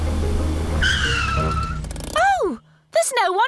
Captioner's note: tires screech